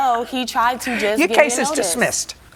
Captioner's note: chuckles